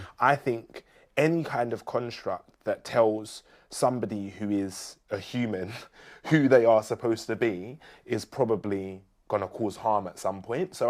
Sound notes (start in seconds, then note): none